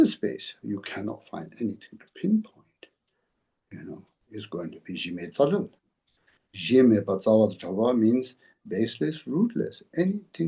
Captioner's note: tibetan